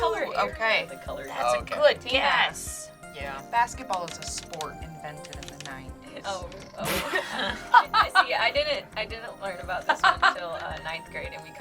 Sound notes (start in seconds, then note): 6.7 laughs